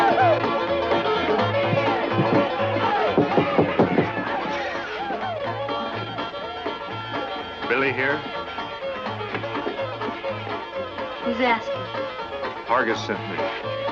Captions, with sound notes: [knocking] Billy here? Who's askin'? Hargus sent me.